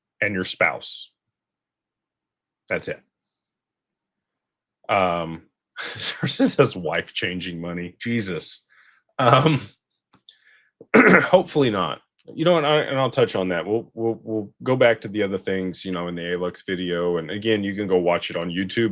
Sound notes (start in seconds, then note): 6.5 laughter; 10.9 clears throat